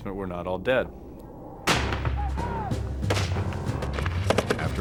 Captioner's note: gunshots